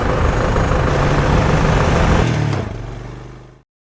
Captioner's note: sound of Taxi driving into distance